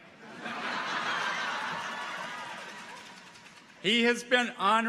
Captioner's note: audience laughs